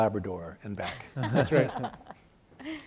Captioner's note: panelists laughing